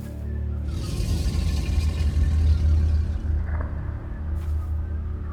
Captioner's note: ethereal growling